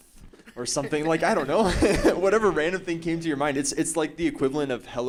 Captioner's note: laughing